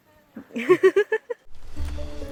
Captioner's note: laughter